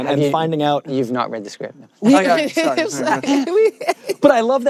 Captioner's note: both laugh